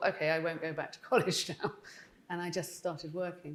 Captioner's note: chuckling